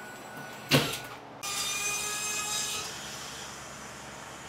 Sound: nail gun thumps; saw buzzing

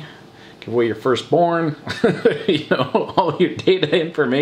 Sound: laughs

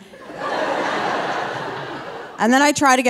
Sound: audience laughing

